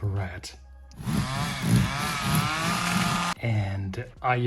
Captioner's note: chainsaw sounds